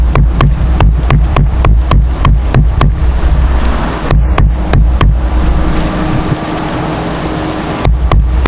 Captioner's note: more booms